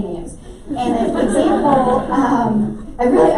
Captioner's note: laughter